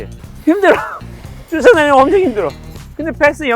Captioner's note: rough breaths of the defenders